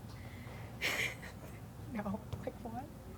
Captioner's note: laughs